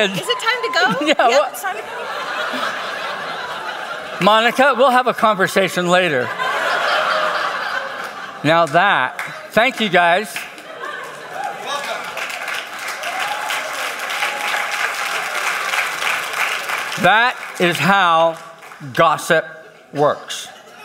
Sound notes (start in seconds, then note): 12.5 congregation applauds